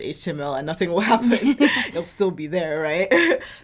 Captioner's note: both laughing